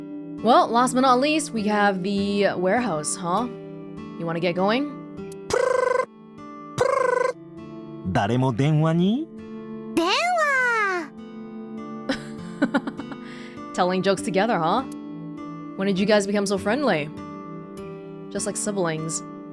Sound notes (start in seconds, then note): 12.1 chuckles